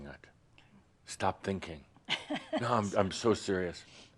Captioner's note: she chuckles